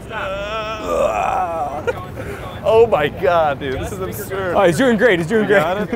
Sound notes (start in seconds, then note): 1.8 grunting and chuckling